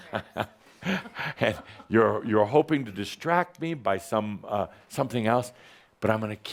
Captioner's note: chuckling